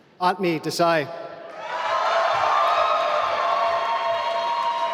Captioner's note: applause